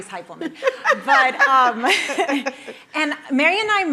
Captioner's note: both laughing